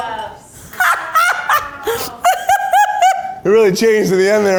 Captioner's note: laughs